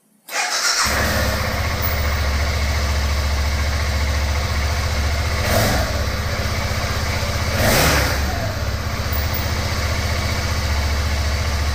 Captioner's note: engine running